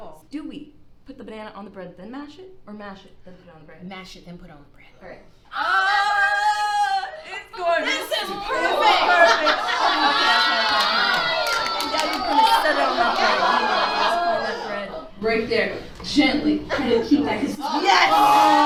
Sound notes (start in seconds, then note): 9.2 audience reacting